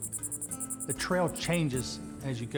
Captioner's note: insects clittering